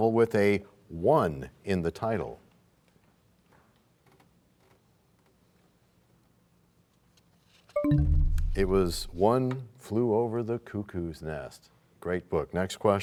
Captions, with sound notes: well-known novel with a "one" in the title? [bell chimes, time expires] -It was One Flew Over the Cuckoo's Nest.